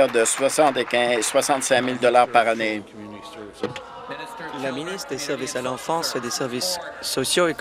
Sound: applause

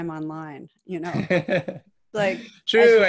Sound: laughs

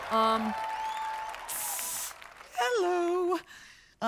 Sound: mimics steam sizzling

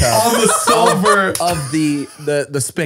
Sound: laughing

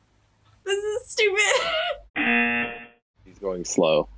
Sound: laughs; buzzer rings

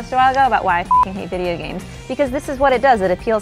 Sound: beep

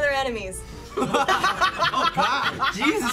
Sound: all laugh

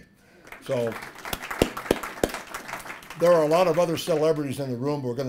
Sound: applause

